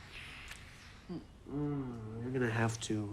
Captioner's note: lips smacking; Paul moans